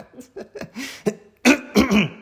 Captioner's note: more laughter